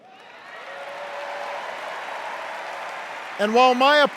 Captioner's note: cheers and applause